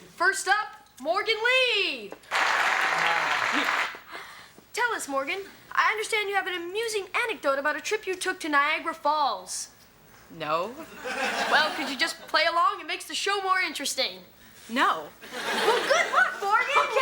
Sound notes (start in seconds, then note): 2.2 prerecorded applause plays; 11.0 audience laughs; 15.3 audience laughs